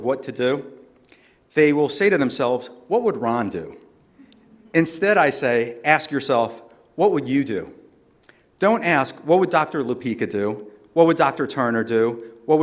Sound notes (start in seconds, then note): none